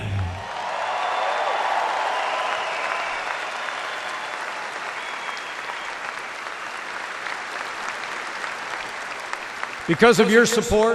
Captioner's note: applause